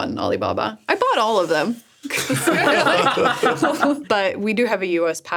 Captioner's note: laughs